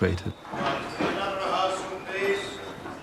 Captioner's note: indistinct chatter